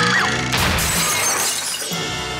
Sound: screaming; glass shattering

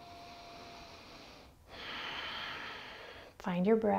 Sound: heavy breathing

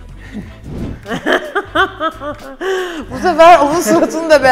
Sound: gasps; anxious laugh

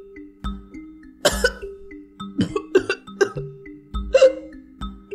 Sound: coughing

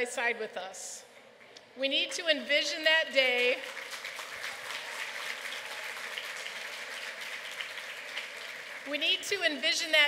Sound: applause

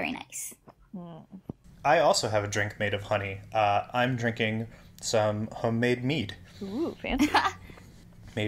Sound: laughs

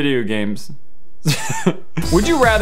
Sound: laugh

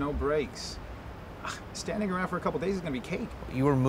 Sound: scoffs

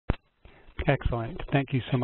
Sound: voiceover

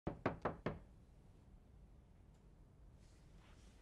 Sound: knock on door

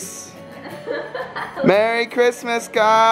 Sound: laughter

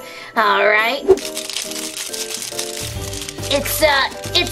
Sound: paper crinkling

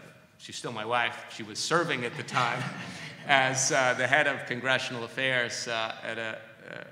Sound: laughter

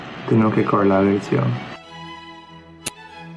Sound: non-english speech

